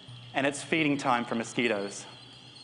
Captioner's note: mosquito noises